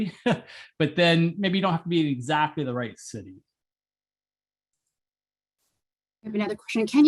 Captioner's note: laugh